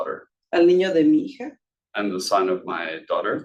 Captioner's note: speaking Spanish